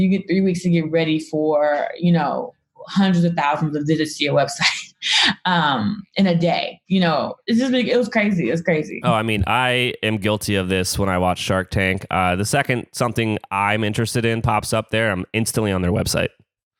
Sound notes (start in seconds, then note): 5.5 laughs